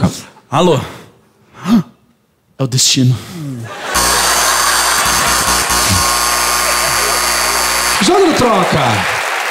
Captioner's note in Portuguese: campainha e aplausos